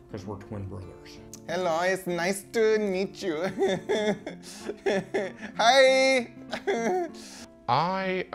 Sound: laughs

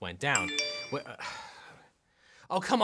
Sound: mobile pinging

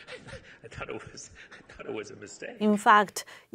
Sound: laugh

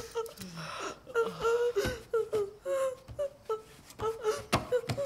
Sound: whimpering in pain

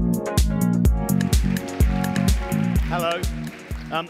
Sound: applause

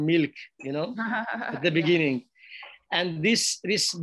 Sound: laughs

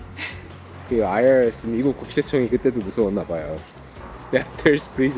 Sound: haha

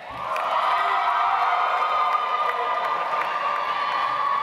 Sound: audience applauds

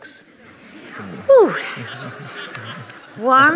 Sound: laughter

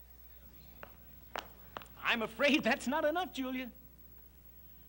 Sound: footsteps

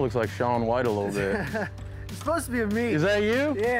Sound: chuckles

